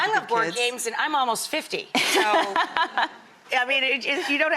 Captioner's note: laughing